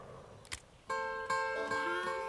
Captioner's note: clicking sound; harmonica music